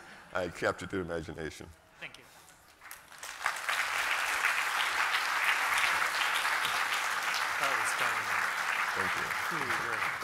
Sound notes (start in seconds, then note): 2.8 applause